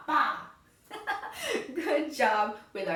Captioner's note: laughs